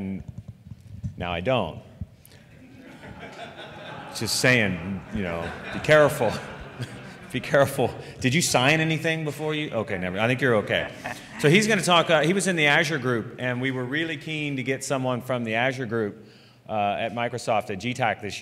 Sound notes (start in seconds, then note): 2.4 laughter